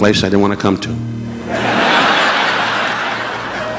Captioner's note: audience laughing; relaxing piano music continues